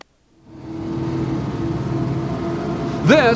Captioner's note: boat engines roar